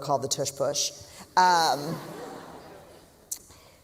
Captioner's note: laughter